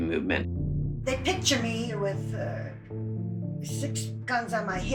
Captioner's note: soundbite of archived recording